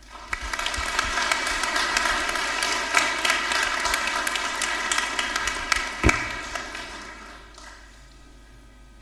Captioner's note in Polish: oklaski